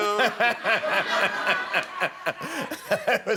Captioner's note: laughter